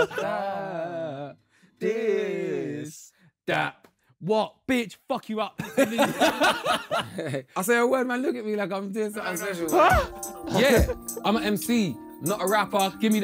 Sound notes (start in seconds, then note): 5.6 Sidemen laughing